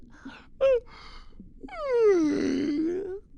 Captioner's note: yawns